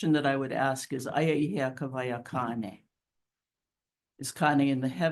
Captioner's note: speaks Hawaiian